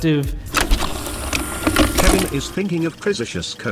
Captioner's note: film shutter